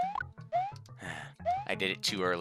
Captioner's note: sigh